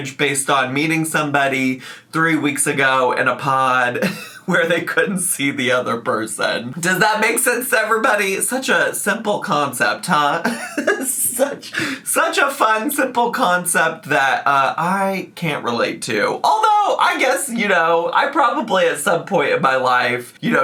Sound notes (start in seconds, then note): 4.0 chuckling; 10.4 laughing